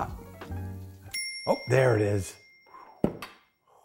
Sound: bell

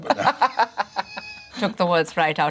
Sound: laughing

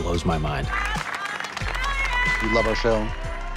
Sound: cheers, applause

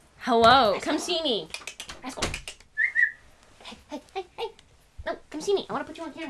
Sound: whistles

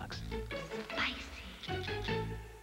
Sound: woman whispers: Spicyyyyyyyyyyyyyyyy

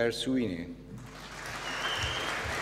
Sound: applause

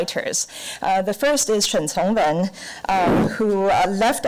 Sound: foreign language

